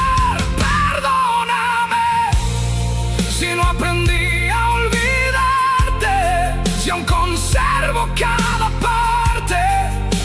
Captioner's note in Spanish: grito